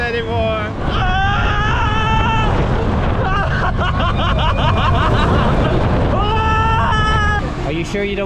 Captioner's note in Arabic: صراخ